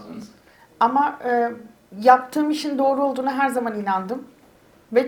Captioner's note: speaks in Turkish